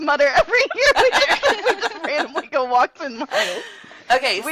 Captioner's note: overlapping with laughter